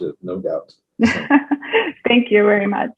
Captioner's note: laughing